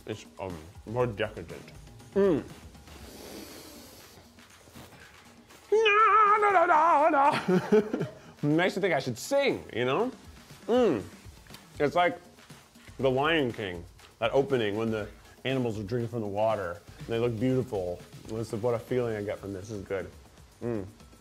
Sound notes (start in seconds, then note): 5.7 vocalizing